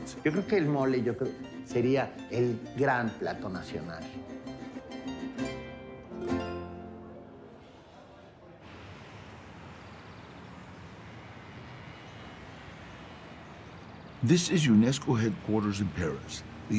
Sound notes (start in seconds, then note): 0.2 in Spanish; 9.6 birds chirping; 9.6 scooter motor whirring; 14.2 in English